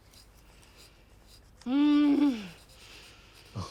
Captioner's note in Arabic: شخير